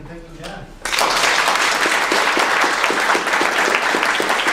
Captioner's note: applause